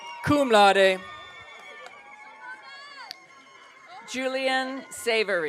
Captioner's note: audience cheering